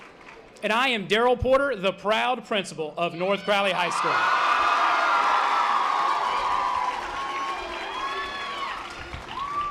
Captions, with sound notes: And I am Daryl Porter, the proud principal of North Crowley High School. (audience applause)